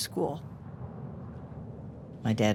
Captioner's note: wind blowing